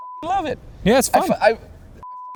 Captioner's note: beep